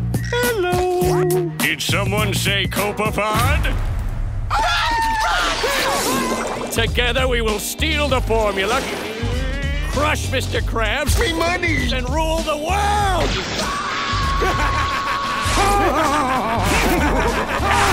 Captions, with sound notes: Hello, did someone say Copepod? - Run, run! - Ahh! Together we will steal the formula! - Crush Mr. Krabs! - Me money! And rule the world! Ahh! [laughing]